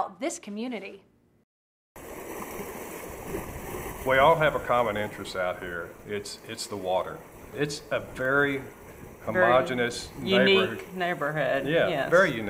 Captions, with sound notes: FIRST CHECK OUT THIS COMMUNITY. (OCEAN SOUNDS) WE ALL HAVE A COMMON INTEREST OUT HERE; ITS THE WATER. ITS A VERY HOMOGENEOUS, UNIQUE NEIGHBORHOOD. YEAH, VERY